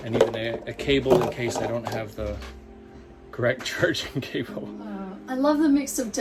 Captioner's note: chuckling